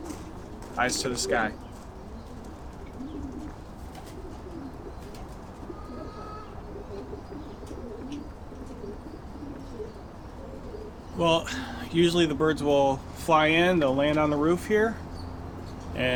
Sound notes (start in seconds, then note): 3.6 pigeons cooing